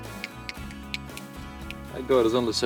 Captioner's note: tongue clicks